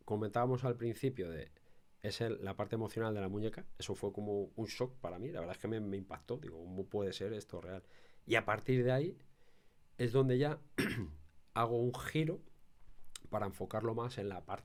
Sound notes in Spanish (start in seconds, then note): 10.8 carraspeo